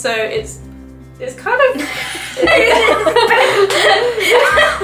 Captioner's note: both burst out laughing